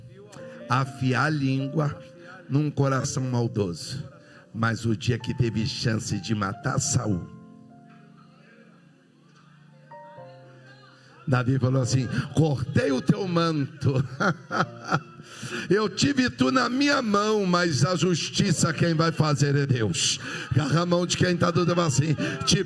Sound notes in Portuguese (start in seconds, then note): 13.9 risadas